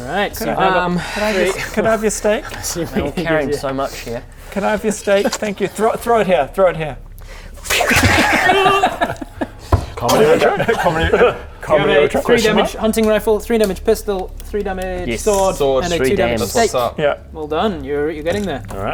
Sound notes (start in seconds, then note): 7.7 fwwoosh...thud